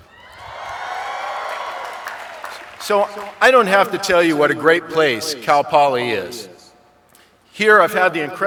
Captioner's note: applause